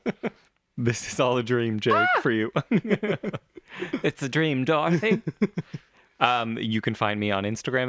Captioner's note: laugh